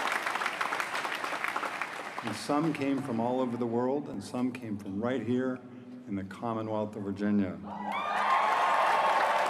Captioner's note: applause